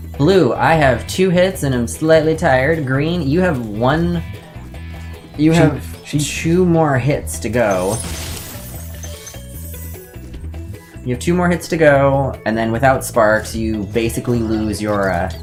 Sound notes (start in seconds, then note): 7.6 gems Clink Against Eachother; 7.6 wood Breaking